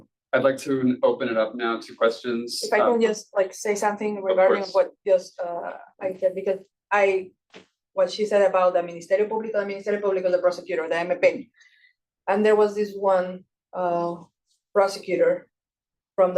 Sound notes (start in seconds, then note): 9.7 speaking Spanish; 11.4 faintly speaking